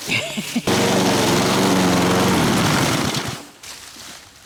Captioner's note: lawnmower whirring